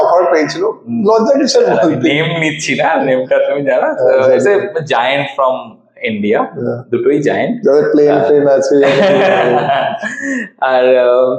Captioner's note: laughs